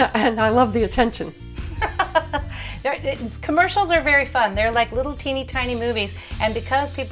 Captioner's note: laughter